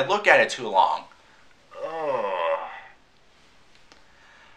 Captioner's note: groan